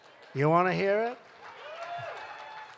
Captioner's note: applause